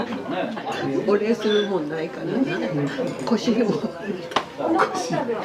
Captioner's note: laughs